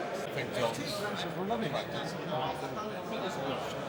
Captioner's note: people Chattering